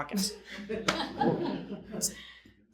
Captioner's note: audience laughing